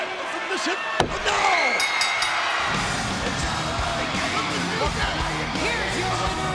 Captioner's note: bell dings